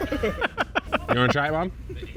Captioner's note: laughing